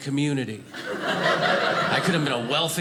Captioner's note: audience laughing